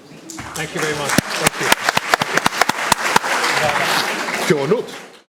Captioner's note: applause